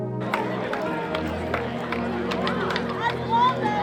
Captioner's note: all chattering